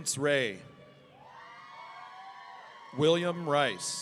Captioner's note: audience cheering